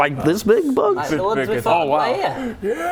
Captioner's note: none